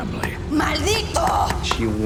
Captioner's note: woman speaking Spanish